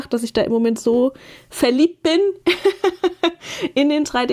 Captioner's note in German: gelächter